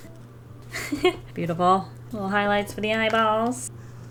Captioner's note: giggles